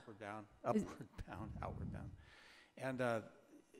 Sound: chuckling

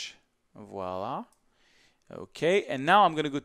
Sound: speaks in foreign language

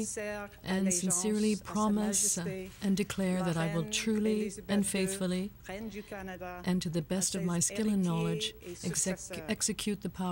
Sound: speaking French

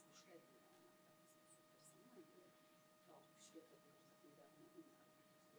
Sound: foreign language

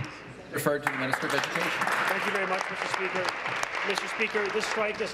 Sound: applause

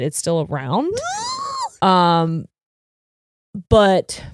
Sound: squeals

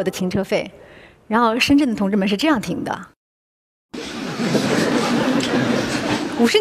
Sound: laughter

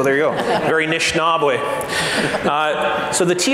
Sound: foreign speaking

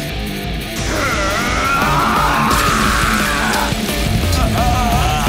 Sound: groans

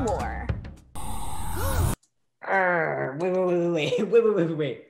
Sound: gasps

